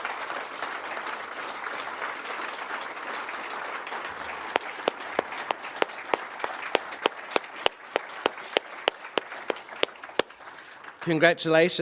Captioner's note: applause